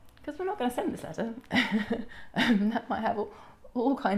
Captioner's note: chuckles